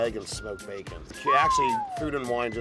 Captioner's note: whistling